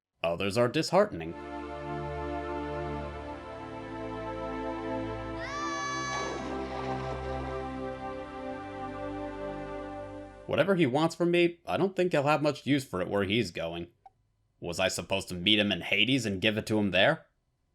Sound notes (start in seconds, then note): 1.2 somber music; 5.3 Icarus screams; 6.4 splash